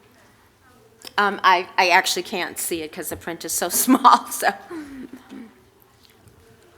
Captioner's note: laughter